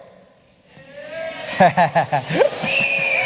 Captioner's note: shouting, whistles